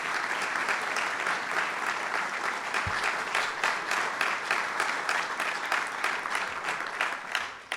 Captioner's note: applause